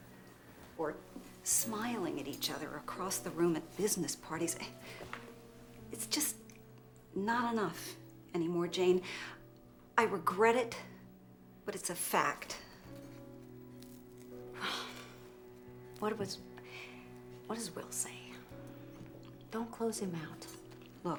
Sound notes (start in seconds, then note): 14.5 sighs